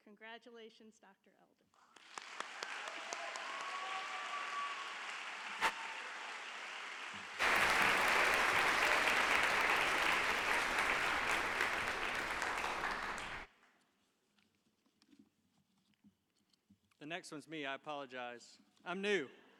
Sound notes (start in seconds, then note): 2.4 audience applauds; 2.4 audience cheers